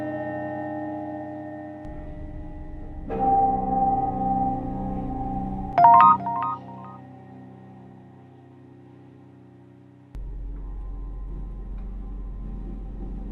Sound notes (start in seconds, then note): 5.8 text sound; 7.0 dark music